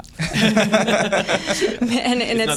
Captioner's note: laughter